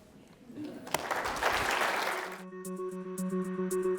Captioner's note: applauding; cheerful music